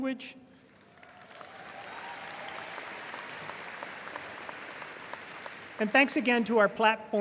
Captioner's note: audience applauding and cheering